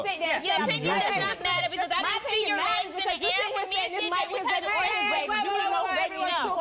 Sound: arguing

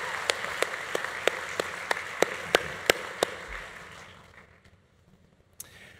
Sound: audience applause continues

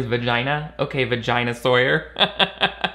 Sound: laughs

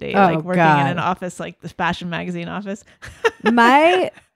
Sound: laughs

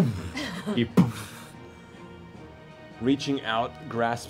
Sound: mimics fight sounds

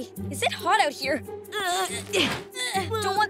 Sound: grunting

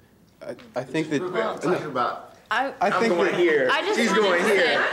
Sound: indistinct chatters

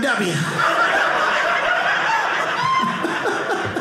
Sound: audience laughing

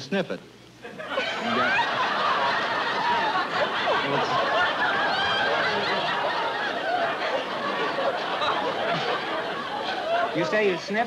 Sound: laughter

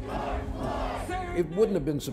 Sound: crowd

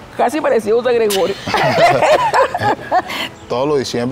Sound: laughs

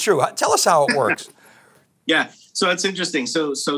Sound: chuckling

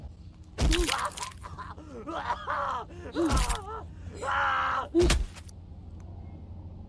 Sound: Janet screams; Janet grunting; bones crunching; killer screaming

